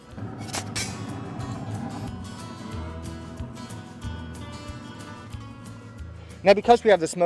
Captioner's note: sounds of Pizza hitting the Stone and Country Music